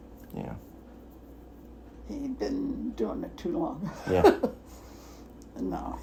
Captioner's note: laughs